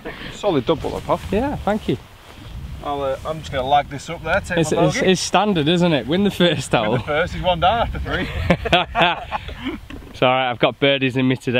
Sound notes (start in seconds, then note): 7.8 laughs